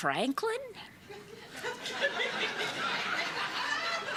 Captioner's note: laughter